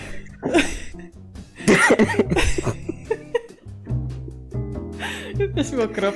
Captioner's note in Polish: śmiech